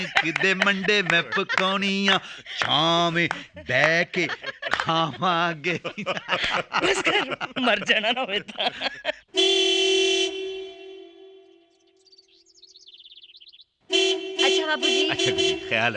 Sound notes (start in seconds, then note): 5.8 all Laughing; 9.2 horn Honking; 12.1 birds - Chirping